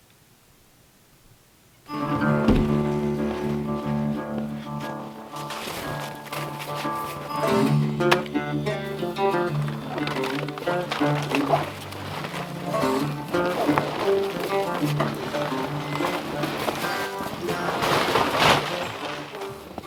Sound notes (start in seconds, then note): 1.9 bluesy acoustic guitar music; 2.9 log thumps; 5.5 footsteps crunching; 10.4 cover crunching